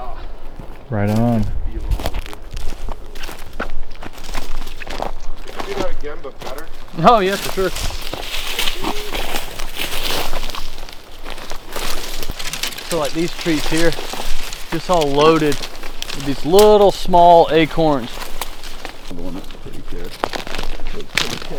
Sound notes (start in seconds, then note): 2.0 leaves crunch; 8.0 leaves rustle